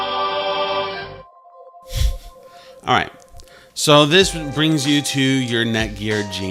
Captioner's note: chuckles